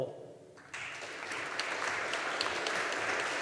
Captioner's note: audience applauding